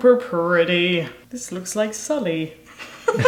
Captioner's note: laughs